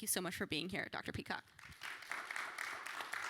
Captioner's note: applause